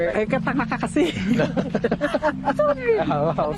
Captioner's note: laughing